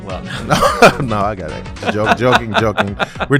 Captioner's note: laugh